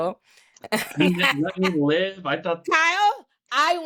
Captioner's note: laughs